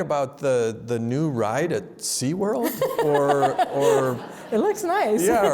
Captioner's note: laughs